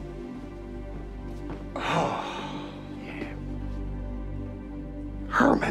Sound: exhales heavily

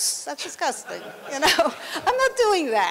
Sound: laughter

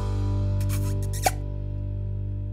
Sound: kissing sound

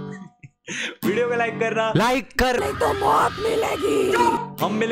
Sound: hindi horror movie voice

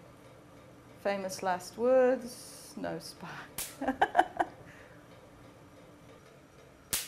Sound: laughter

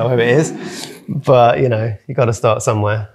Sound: audience laughing

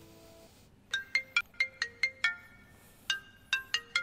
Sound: phone ring

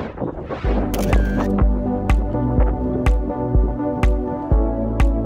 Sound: camera lens shutters; upbeat music

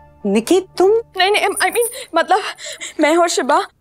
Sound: gasp

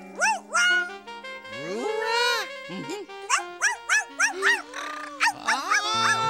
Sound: barking

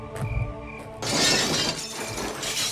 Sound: glass smashing

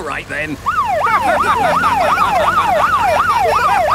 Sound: siren wailing; laughing

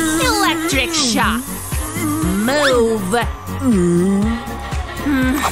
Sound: grunting

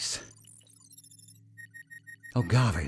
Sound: computer beeps

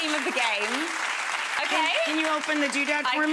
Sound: audience applauding

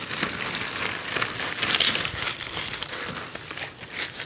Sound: crackling of the film

